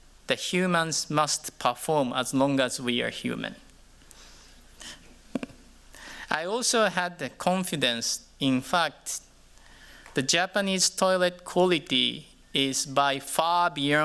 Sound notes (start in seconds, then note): 5.2 chuckles